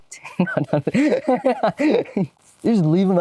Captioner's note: laughs